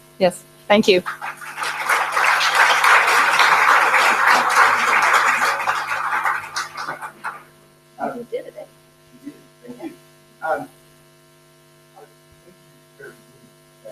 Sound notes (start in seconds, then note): 1.0 audience applauding